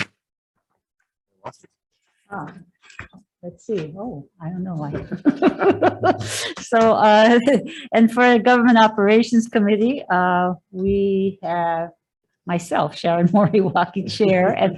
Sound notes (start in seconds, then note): 5.0 laughs